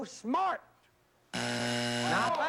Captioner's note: buzzer